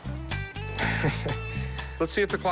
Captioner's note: chuckles